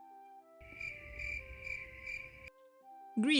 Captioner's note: cricket noise